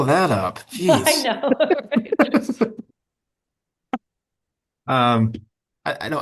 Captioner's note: participants laughing